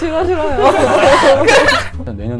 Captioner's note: laughing